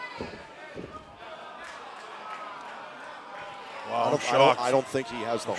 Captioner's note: crowd chatter